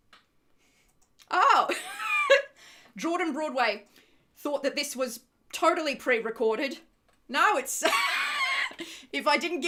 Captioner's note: laughs